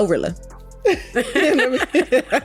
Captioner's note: both laugh